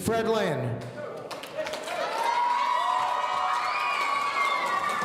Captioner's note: audience cheering